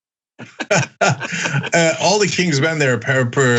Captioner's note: laugh